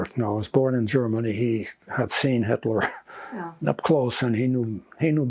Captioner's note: laughing